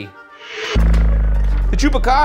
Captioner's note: transition whirring